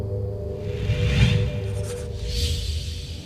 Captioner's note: whooshing